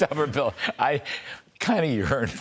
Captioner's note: laughter